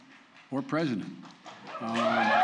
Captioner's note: applause